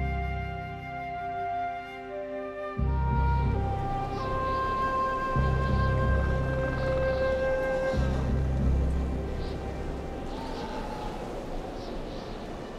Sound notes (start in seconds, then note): 3.0 wind whistling; 7.6 fly buzzing